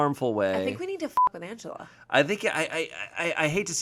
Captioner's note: beep